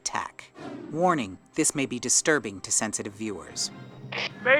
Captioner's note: none